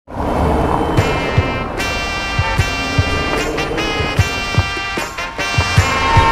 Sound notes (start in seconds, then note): 0.0 traffic roaring; 0.9 upbeat music